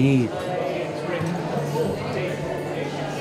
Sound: crowd murmuring

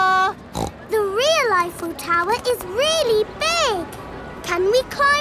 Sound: snorts

